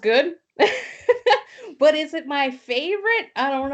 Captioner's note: laughs